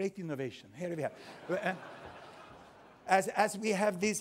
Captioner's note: laughter